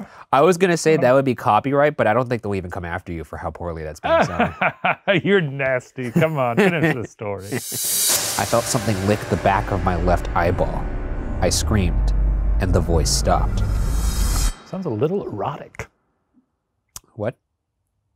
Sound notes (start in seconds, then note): 4.0 laughing; 7.9 dramatic whooshing